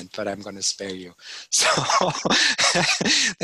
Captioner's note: laughing